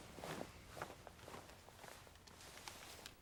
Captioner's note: none